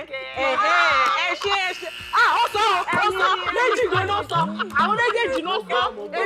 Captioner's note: buzzer pressed